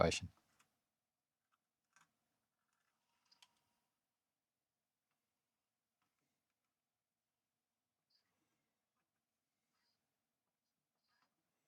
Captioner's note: silence